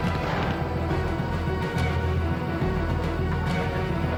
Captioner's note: smoke hisses